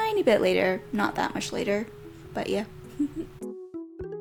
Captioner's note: giggles